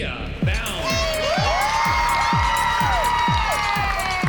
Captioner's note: cheering and applause